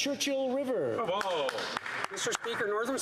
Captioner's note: some Applause